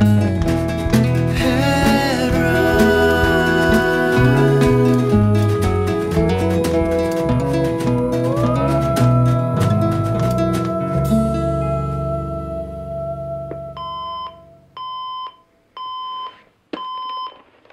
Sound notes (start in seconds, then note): 13.6 alarm beeps